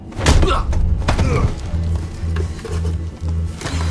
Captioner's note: Michael grunts